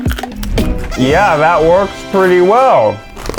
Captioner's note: party horn sound